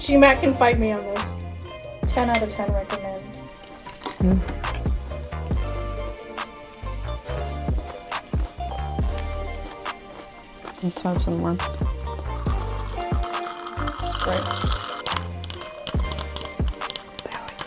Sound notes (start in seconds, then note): 3.6 cereal crunch; 5.6 grandma eating noises; 17.4 whisper